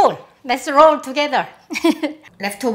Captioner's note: laughs